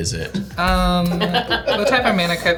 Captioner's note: laughing